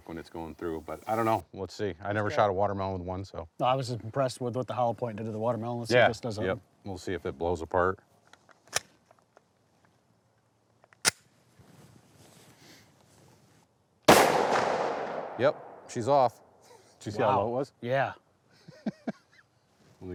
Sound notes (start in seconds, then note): 8.6 gun clicking; 14.1 gun bangs; 18.6 chuckles